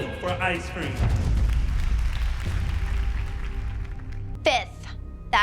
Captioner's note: applause